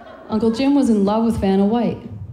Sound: laughing

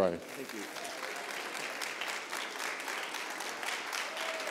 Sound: applause

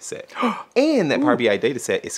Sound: gasps

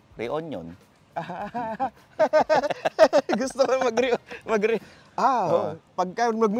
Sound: laughs

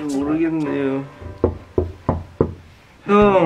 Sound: knocking

